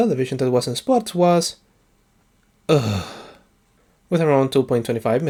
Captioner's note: annoyed Groan